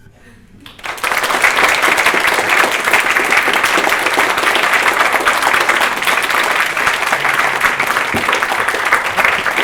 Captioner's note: applause